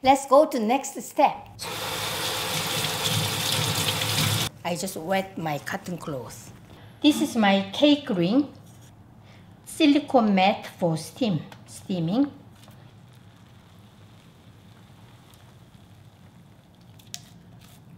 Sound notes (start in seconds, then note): 1.7 water rushing